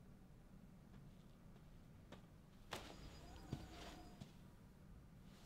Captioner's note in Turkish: Ayak sesi